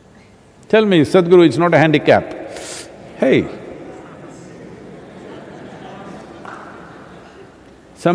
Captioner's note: laughter